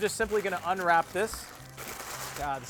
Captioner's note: rustling